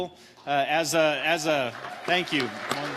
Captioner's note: audience applauding